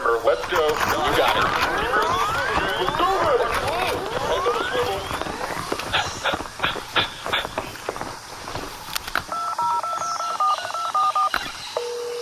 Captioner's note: phone ringing